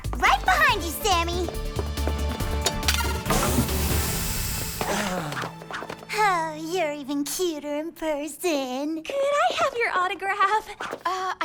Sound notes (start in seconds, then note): 2.6 groaning